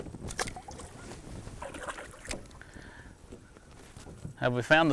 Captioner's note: water splashing